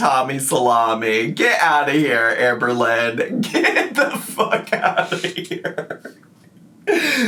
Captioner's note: laughs